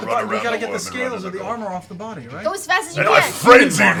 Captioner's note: yelling